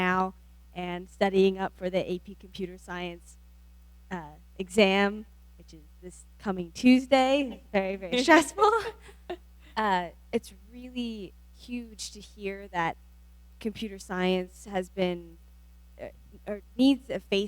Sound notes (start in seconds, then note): 8.1 laughs